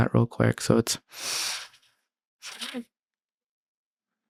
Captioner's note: deep breath